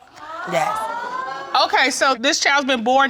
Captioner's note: audience gasps